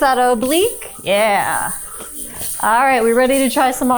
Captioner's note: hip scarf jingling